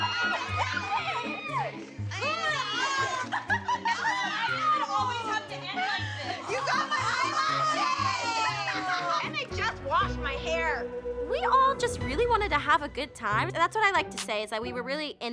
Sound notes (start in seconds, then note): 2.5 laughing